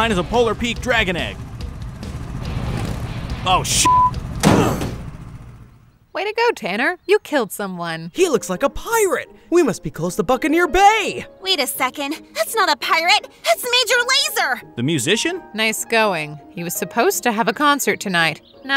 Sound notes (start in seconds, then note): 1.9 motor purring; 3.8 beep; 4.3 quads crashing